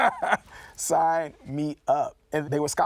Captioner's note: laughs